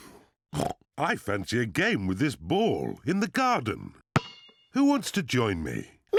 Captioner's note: oinks